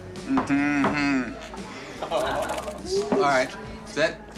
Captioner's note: laughs